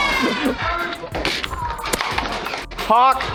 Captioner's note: battle sounds continue; laughter